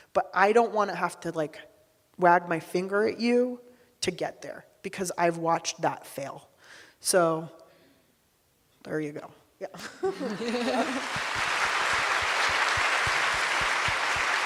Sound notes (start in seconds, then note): 9.8 laughing; 10.2 audience clapping